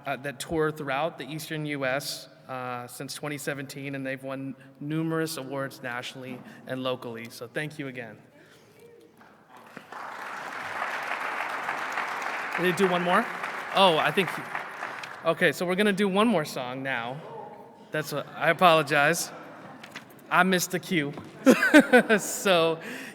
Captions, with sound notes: that tour throughout the Eastern US since 2017, and they've won numerous awards, nationally and locally. So thank you, again. -(attendees clapping) -Oh, they do one more? Oh I think- So we're gonna do one more song now. I apologize. I missed a cue.